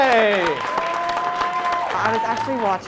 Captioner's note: crowd applauding